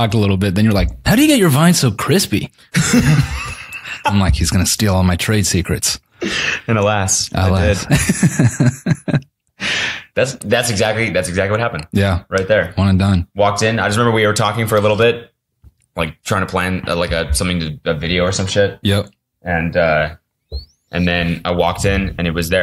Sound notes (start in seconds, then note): 2.7 both laugh; 7.7 laughs